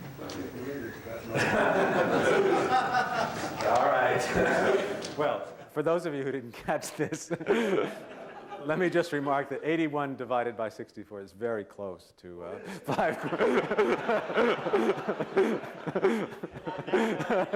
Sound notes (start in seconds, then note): 12.6 laughter